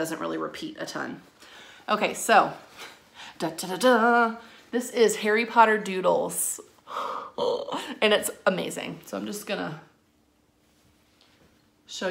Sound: gasp

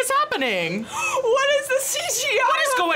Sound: gasps

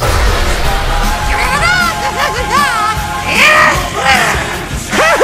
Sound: laughing

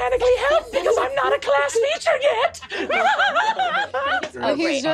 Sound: giggles

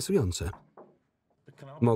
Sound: knocking on door

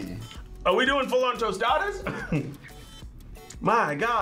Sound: laughs

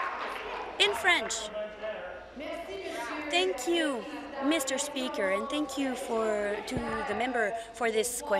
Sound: applause

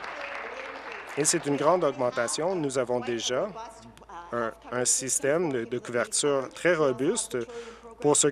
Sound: applause

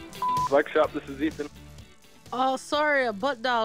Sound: beeping

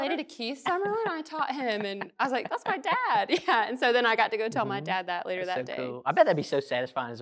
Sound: laughing

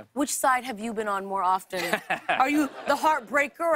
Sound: laughs

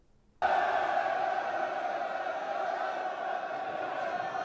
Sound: crowd clamors

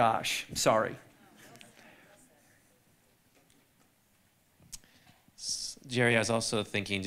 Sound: audience chattering

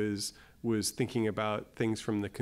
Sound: none

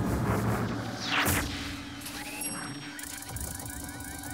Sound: machine thuds

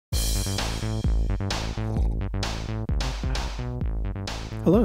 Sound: slurp

